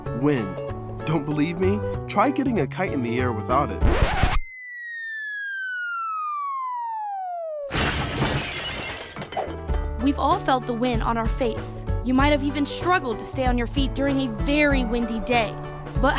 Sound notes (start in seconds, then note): 4.2 playful music; 7.8 glass clinking